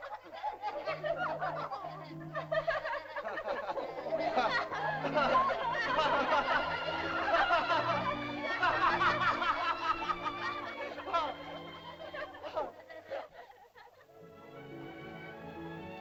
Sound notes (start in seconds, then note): 3.5 Tumak laughs; 6.8 laughter; 6.8 sentimental music; 14.2 soft music